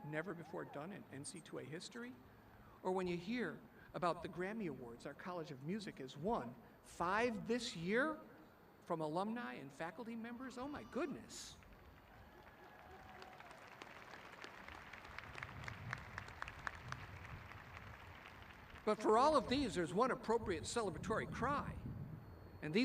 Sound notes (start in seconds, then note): 11.6 applauding